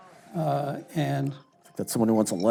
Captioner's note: phone ringing